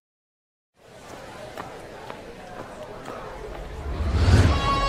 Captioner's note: chatter